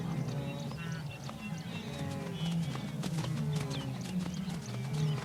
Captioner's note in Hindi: चहचहाहट